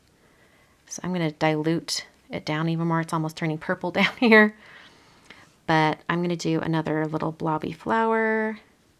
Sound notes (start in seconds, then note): 4.9 laughs